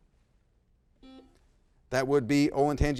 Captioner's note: buzzer blaring